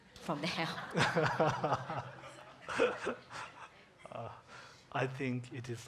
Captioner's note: congregation laughing